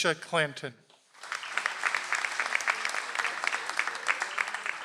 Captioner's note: audience applauds